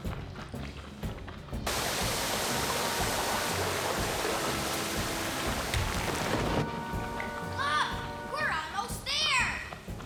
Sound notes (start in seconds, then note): 1.6 rain Pouring & Wind Blasting